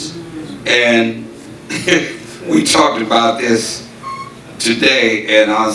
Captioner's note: chuckles